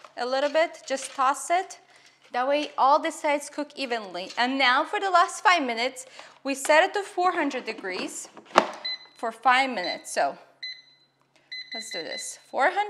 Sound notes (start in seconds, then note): 10.6 beeping